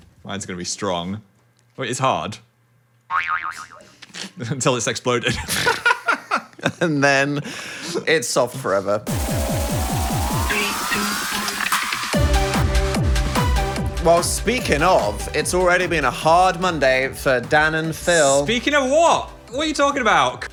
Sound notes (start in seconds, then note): 3.1 spring boings; 5.3 laughs; 9.1 energetic music